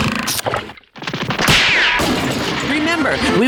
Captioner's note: clanging